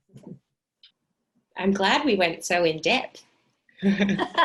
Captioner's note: laughing